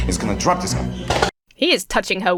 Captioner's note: cups clatter to the floor